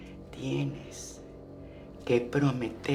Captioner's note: Spanish